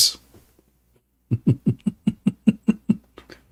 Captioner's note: Ketawa